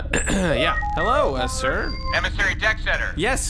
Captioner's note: coughs; transmission start sound